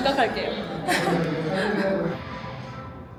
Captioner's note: chuckles